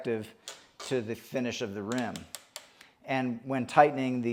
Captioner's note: strap zipping